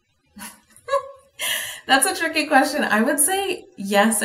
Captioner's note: laughs